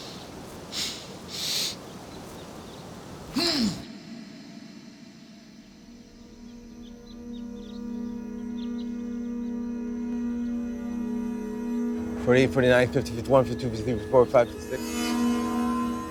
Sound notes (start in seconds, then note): 3.4 man exclaims; 8.4 tense music